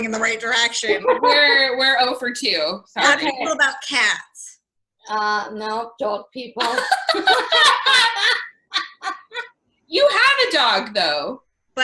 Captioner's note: laughter